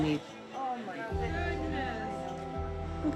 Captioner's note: overlapping chattering